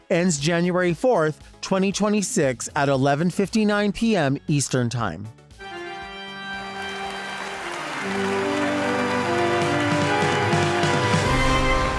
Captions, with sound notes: Ends January 4th, 2026, at 11:59 PM Eastern Time. (spooky music) (audience applauds)